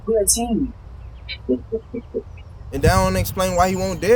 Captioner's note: Chauncey laughing